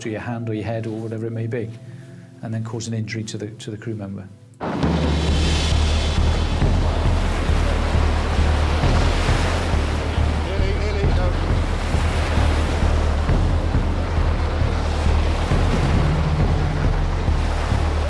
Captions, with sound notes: or your hand, or your head, or whatever it may be, and then cause an injury to the crew member. (dramatic music) - Nearly, nearly, no. (waves crashing)